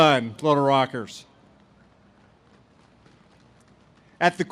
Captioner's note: audience claps